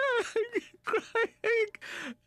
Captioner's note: sobbing